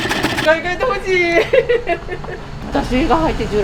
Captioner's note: laugh